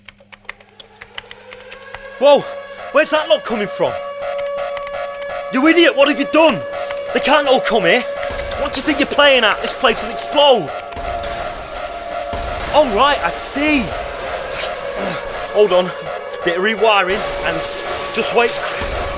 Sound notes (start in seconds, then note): 0.2 warning siren; 4.4 typing